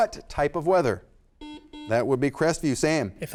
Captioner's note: buzzer sounds